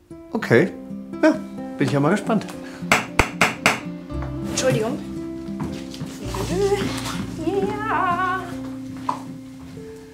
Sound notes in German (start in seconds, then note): 2.9 Klopfen